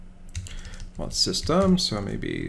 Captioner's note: typing